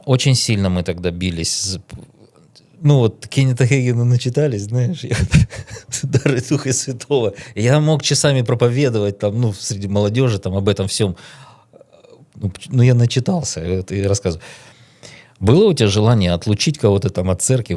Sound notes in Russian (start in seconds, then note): 7.8 смех